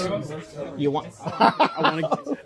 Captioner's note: laughs